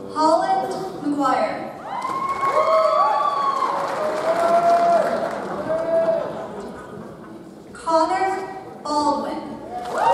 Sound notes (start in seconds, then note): 1.8 audience cheers; 1.9 audience applauds